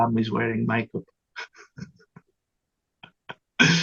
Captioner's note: laughs